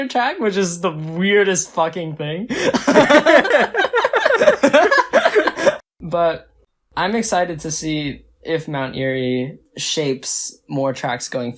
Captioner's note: both laugh